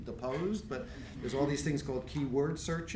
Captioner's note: laughing